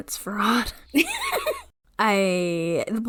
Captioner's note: laughs